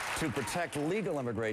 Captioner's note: applause